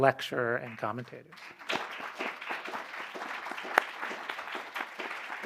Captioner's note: applause